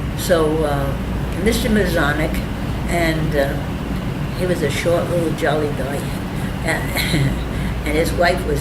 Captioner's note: laughs